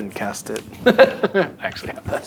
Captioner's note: laughing